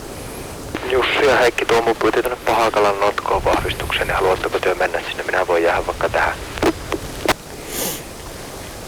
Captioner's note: radio message